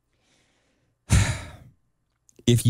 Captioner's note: sighs